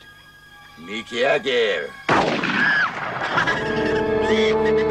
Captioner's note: gunshot